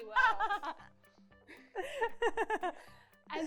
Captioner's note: laughs